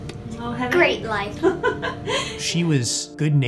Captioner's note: chuckling